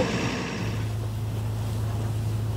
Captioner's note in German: Motorengeräusch